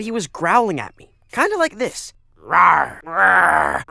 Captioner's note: growls like fluffy